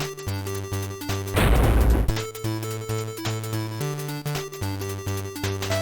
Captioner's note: thud